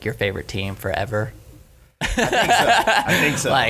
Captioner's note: laughing